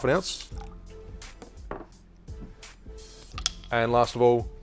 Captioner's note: juice pours